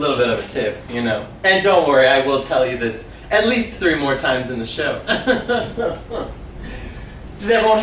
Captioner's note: laughs